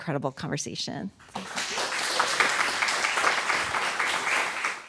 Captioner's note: applause